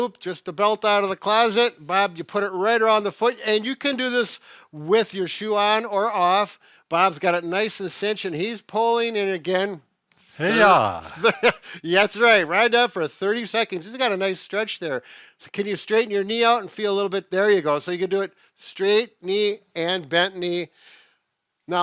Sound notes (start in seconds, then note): 10.5 laughs